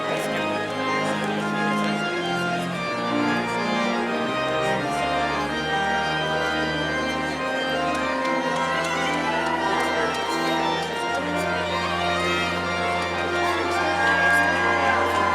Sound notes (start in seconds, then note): 8.2 audience cheering